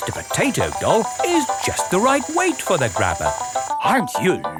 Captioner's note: none